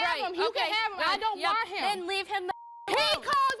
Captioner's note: beep